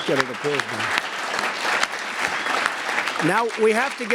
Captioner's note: applause